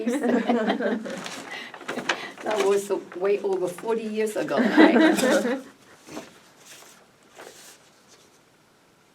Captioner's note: all laugh